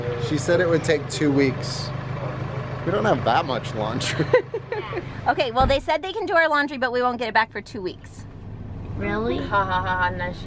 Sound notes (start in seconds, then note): 4.0 laughs